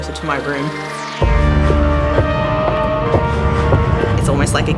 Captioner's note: footsteps increasing